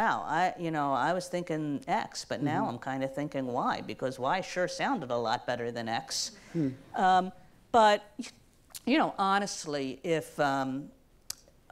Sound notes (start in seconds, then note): none